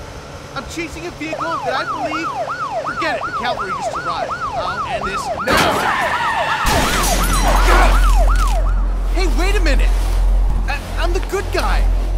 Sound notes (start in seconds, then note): 1.9 police sirens; 5.4 crash, screeching of tires